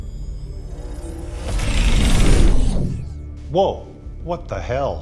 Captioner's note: submarine rushing